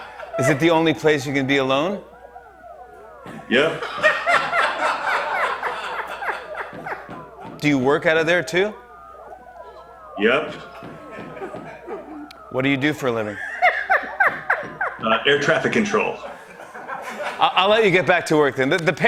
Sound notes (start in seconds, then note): 0.0 laughter; 3.7 laughter; 6.5 knocking continues; 13.3 laughter